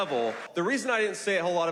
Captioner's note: applause; cheering